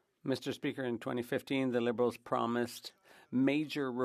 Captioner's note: speaking French